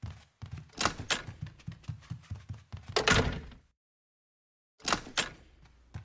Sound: door opens then closes

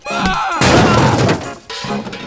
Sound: crash

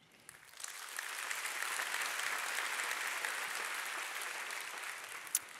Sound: audience applauding

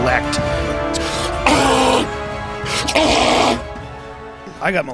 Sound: gorilla like noises are once again heard

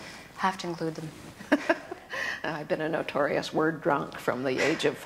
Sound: laughs

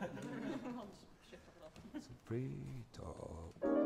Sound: laughter

